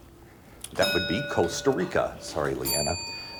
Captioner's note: bell dings